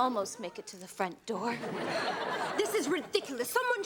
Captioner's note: audience laughs